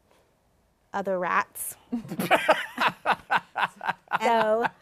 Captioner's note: laughs